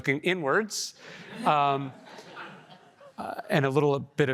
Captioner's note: audience laughing